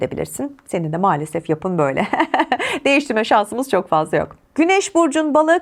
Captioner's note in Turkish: kahkaha